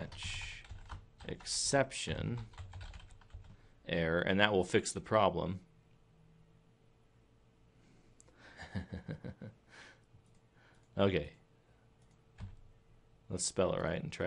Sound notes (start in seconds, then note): 8.5 snickering